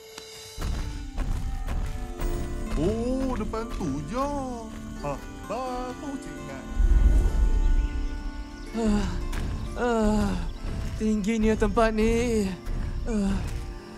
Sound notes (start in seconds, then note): 8.6 tired sigh